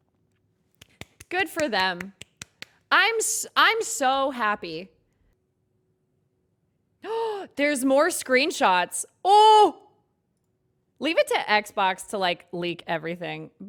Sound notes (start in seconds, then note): 0.8 claps; 7.1 gasps; 9.3 exclaims